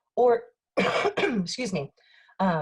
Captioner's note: coughing